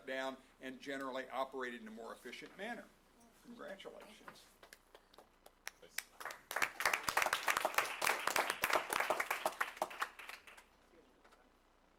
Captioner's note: applause